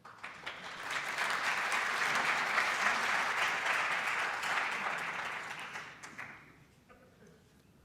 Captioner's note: audience applauds